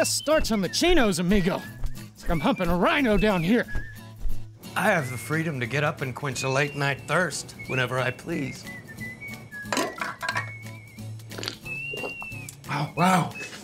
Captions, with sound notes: This starts (speaking in foreign language). I'm humping a rhino down here. I have the freedom to get up and quench a late night thirst whenever I please. (mug clanking) (gulping) Oh wow.